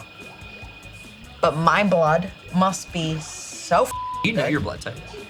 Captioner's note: beep